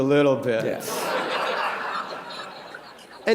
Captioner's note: laughter